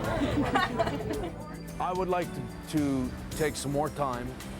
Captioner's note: laugh